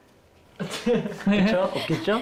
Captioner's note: hesitant